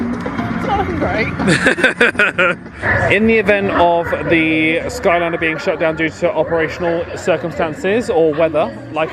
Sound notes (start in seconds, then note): 1.4 laughing